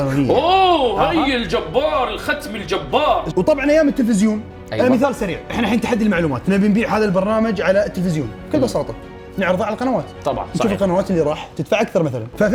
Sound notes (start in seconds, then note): none